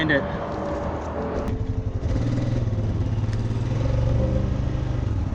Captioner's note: ATV engine humming